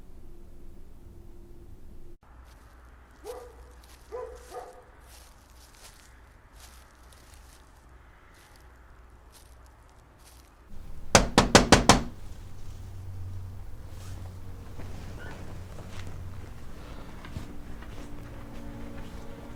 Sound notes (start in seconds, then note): 2.4 leaves rustling; 4.0 dog barking; 10.7 Nick knocking; 16.3 footsteps plodding